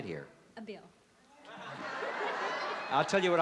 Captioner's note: laughter